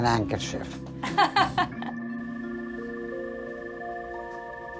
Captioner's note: laughs